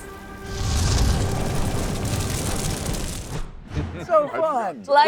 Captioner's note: fire crackles; whooshes